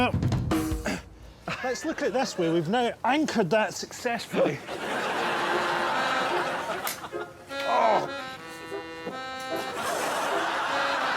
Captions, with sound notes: Well, let's look at it this way, we've now anchored that successfully. [groaning]